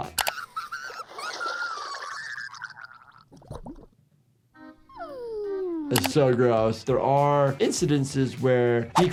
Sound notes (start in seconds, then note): 0.2 Sniffles screaming; 1.2 gurgled screams fade; 1.2 water splashing; 4.5 gentle music; 5.0 cat sighs